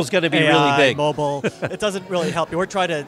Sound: laughs

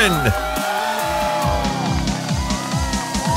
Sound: crowd cheering; upbeat music plays

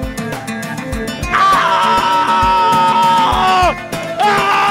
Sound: screaming

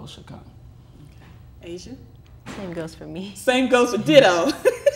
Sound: laughter

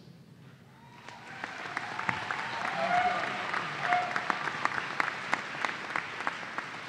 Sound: cheers and Applause

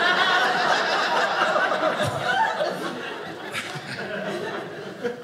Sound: audience laughing

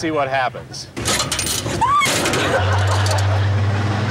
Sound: screaming

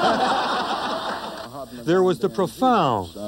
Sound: laughing

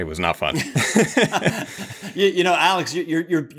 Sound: all chuckle

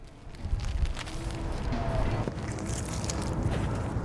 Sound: banners rustle

